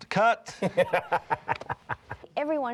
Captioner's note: laughing